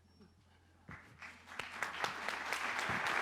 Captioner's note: applause